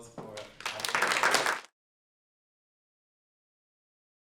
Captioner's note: applause